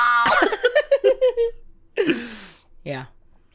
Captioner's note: giggles